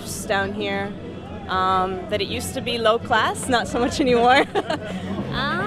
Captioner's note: laughs